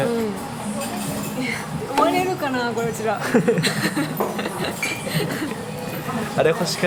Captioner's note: laughs